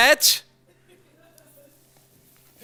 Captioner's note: audience laughs